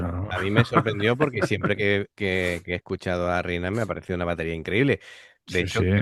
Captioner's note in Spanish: risas